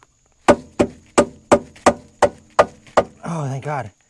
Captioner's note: hammering